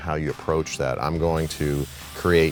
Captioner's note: cutter hissing